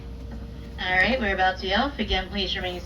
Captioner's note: narrator on microphone